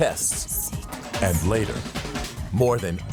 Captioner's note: lady whispering "secrets"